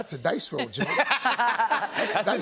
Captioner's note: laughter